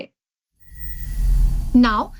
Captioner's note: air whooshes